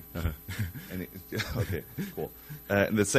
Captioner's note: both laugh